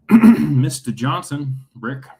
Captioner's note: clears throat